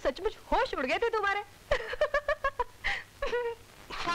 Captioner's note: Laughs